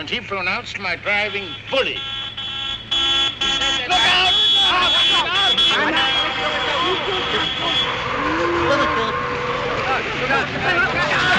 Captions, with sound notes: And he pronounced my driving bully. (HORN HONKING) He said that... Look out! Look out! Look out, look out!